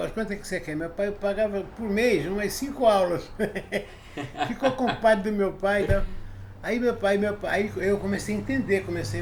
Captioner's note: laughs